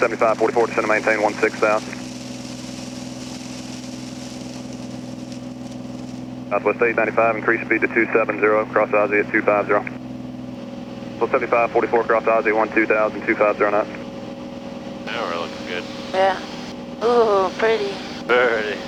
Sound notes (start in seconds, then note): 11.6 male Voice